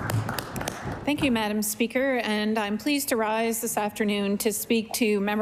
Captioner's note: applause